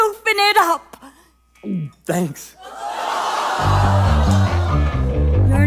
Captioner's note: gulp